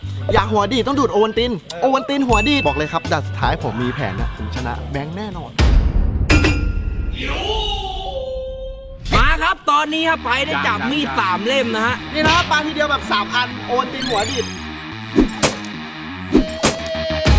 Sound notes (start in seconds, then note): 15.2 stab